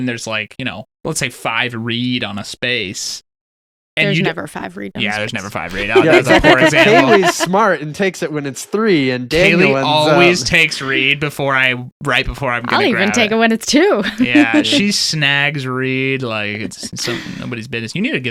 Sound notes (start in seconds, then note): 5.6 laughing